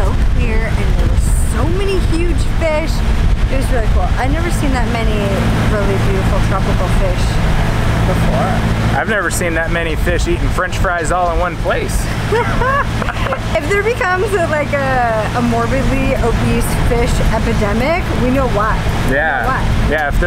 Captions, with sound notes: and there was so many huge fish. It was really cool. I'd never seen that many really beautiful tropical fish before. - I've never seen that many fish eatin' french fries all at one place. (both laughing) - If there becomes a morbidly obese fish epidemic, we know why. - Yeah. - We know why.